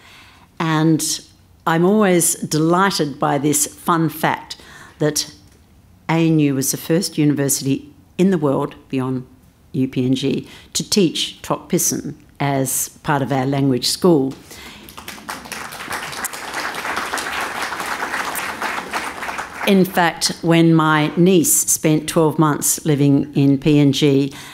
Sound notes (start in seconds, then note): 14.4 applause